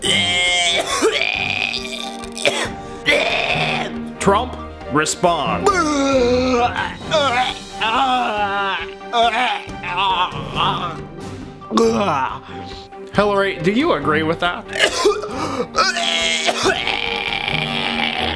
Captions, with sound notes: (sustained gagging cough) - Trump, respond. (gagging) - Hillary, do you agree with that? (retching)